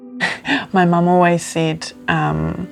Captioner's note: laughing